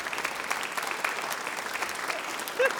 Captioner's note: applause